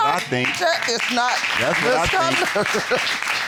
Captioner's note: laughs